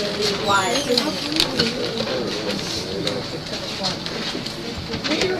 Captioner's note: chatter